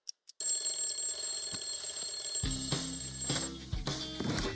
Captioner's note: alarm clock ringing